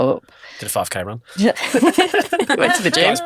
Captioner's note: group laughs